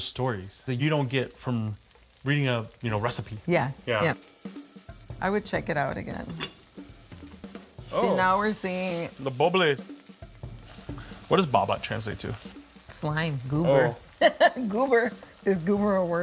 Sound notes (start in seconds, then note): 4.0 food sizzling; 14.2 laughing